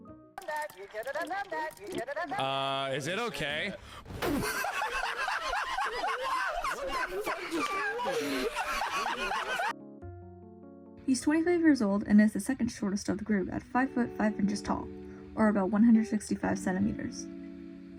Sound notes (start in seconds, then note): 4.2 laughter